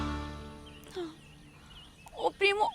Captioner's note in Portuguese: Suspiro